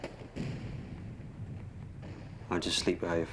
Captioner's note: cannon fire